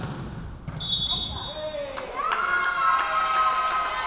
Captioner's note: whistle blowing